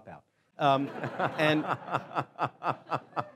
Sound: laughing

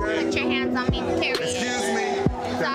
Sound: beep

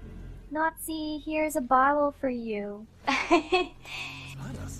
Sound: laughs

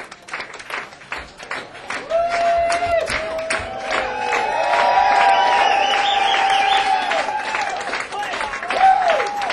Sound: clapping, cheers

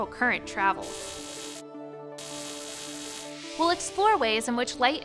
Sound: electric buzzing

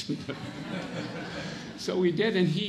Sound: audience laughs

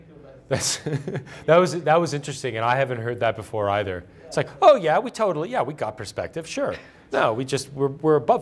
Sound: laughter

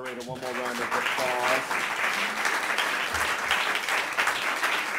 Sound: audience applauds

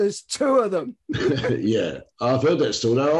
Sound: laughs

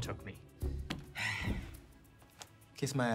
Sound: sighs

